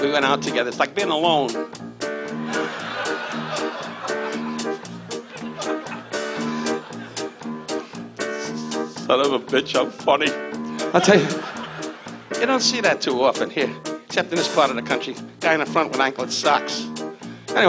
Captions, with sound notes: We went out together, it's like being alone. (audience laughs) Son of a bitch, I'm funny. I'll tell you, you don't see that too often here, except in this part of the country. Guy in the front with anklet socks.